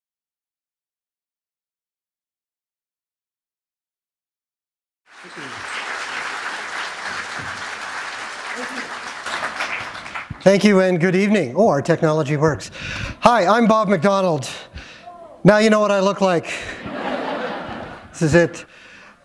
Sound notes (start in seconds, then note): 10.4 applause; 16.6 laughter